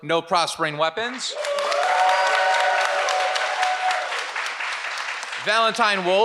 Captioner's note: audience applauds and cheers